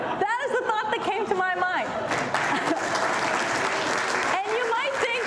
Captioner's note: applause